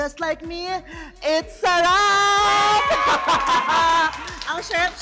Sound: laughs

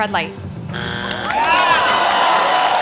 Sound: buzzer sounds; applause

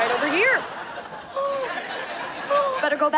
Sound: gasping

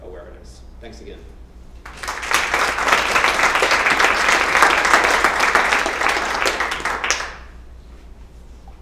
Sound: applause

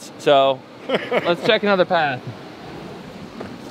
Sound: laughing

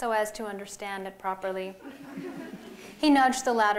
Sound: laughter

